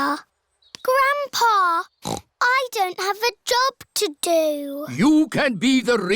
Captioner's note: snorts